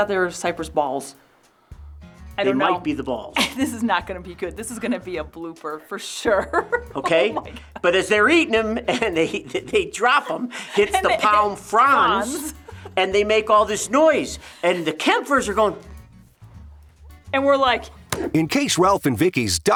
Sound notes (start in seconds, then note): 4.2 chuckles; 10.2 laughs